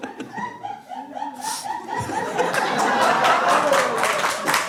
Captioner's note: laughter